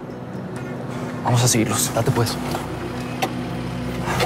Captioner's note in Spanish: Ruido del vehículo